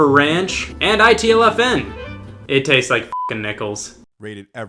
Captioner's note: beep